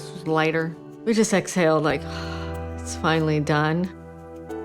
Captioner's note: exhaling